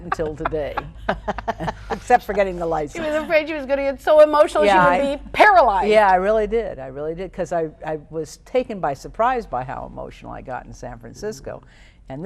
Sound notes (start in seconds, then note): 0.0 laughing